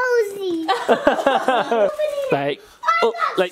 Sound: parents laughing

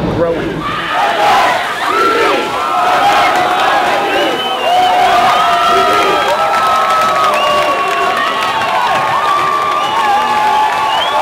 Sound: protesters chant slogan

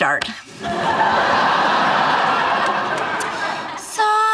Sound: audience laughing

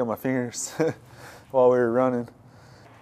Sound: laughs

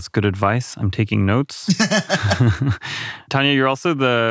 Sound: laughs

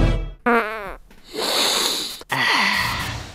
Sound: sniff

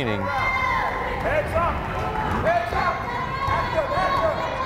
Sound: crowd chattering

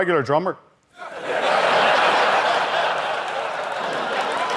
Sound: audience laughter

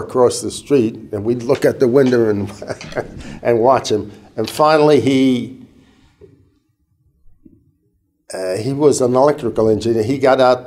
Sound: chuckle

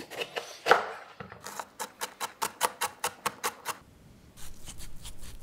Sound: steady chopping

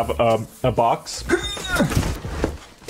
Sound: grunts

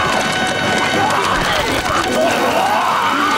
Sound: gagging

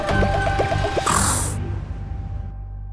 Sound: blows air

